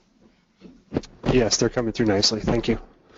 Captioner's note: male Voice